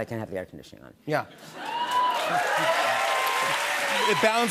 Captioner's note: cheers and applause